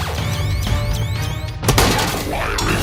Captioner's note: counter crackling and beeping